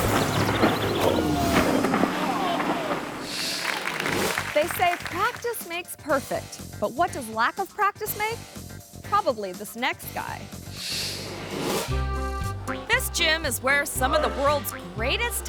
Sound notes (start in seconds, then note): 0.0 ATV thuds; 3.4 audience applauds; 11.0 screen whooshes; 11.9 whimsical music